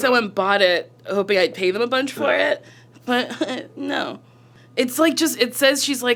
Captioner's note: chuckles